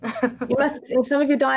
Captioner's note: woman laughing